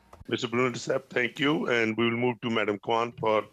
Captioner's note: speaking French